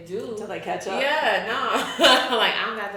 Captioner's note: chuckles